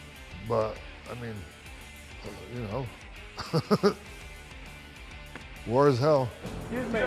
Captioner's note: laugh